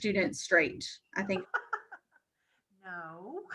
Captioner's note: laughs